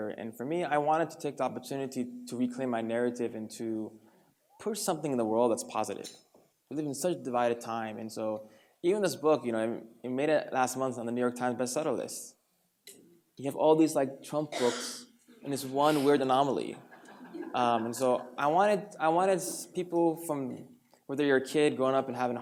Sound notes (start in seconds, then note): 16.8 light laughter